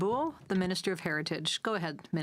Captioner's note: speaking French